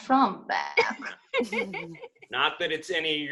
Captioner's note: ALL laugh